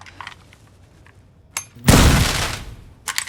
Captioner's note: tv explodes